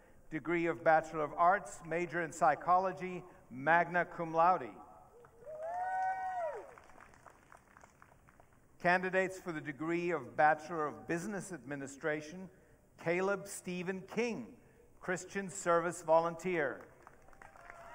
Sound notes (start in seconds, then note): 5.5 audience cheering; 17.3 audience cheering